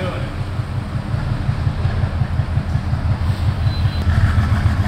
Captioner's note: engine hums